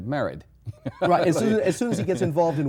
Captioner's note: laughs